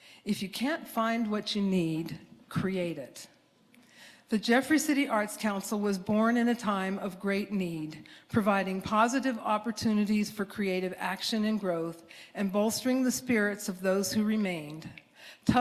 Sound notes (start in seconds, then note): none